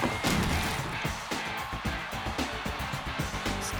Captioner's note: crash